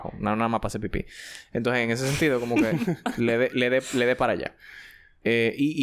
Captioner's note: laughs